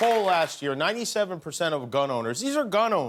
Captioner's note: applause